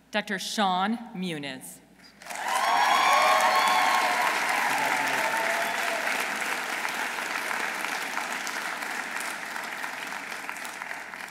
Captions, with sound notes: Dr. Sean Muniz. -(audience cheering) -(audience applauding)